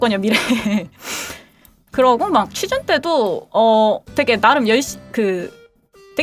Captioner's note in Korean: 웃음